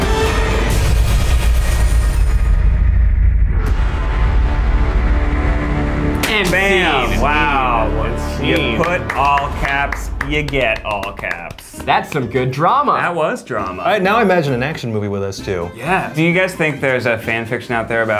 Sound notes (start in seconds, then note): 8.4 claps